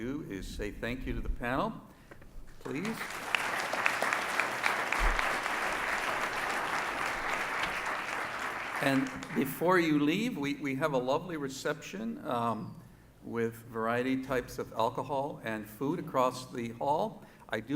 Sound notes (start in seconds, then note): 2.7 audience applauds